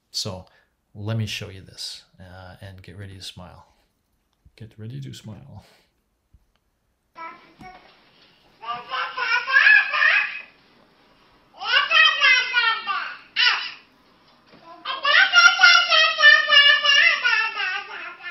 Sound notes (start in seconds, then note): 8.6 baby speaks gibberish